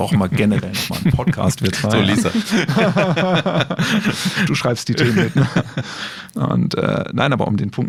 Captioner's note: laughs